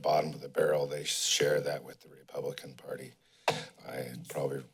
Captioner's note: thud